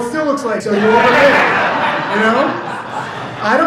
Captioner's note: audience laughs